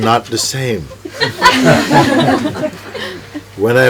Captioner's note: laughter